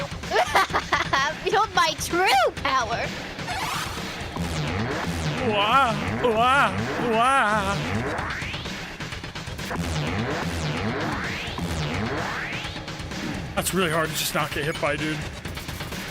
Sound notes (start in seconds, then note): 0.0 laughs; 4.7 warbling